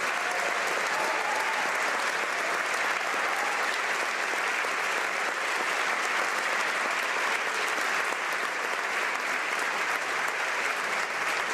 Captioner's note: applause